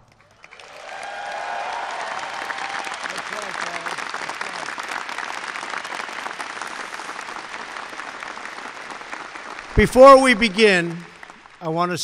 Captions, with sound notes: (Applause.) Before we begin, I want to say that